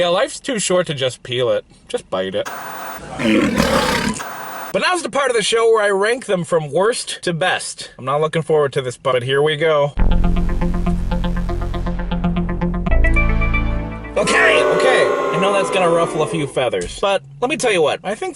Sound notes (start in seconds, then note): 3.1 lion roaring; 10.2 techno music plays